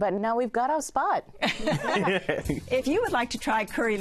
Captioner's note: all laugh